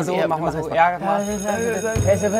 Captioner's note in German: Schulglocke